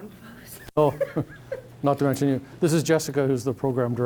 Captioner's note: laughing